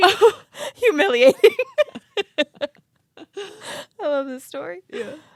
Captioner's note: both laugh